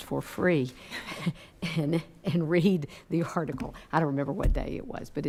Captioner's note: laughing